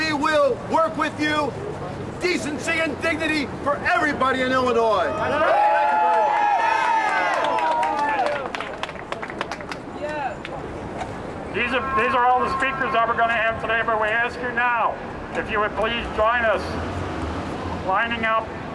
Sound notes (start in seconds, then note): 2.7 crowd cheers